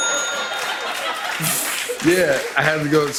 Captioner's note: bell dings; laughter